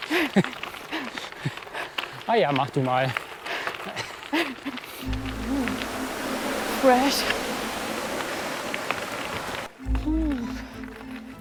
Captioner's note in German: lachen